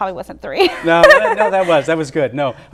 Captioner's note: laughter